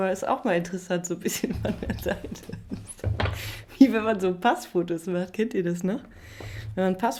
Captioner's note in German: gelächter